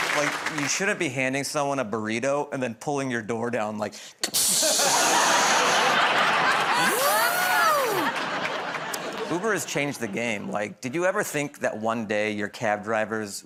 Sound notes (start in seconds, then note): 4.3 imitates air hissing, door whirring